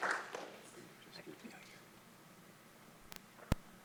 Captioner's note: faintly speaking